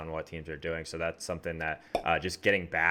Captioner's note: popping sound